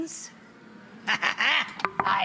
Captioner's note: audience ooohs